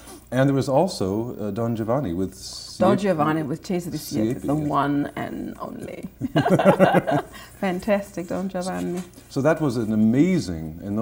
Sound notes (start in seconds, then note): 6.2 laughter